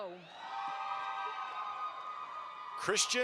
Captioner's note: audience applauds